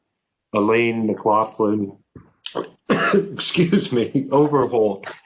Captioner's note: coughs